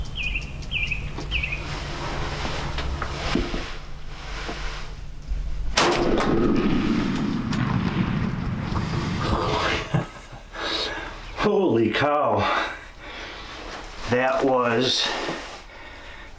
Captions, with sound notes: (bird chirping) (gunshot) - Holy cow. That was